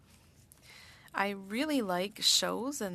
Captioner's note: speaking French